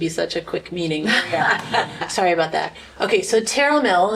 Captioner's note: laughter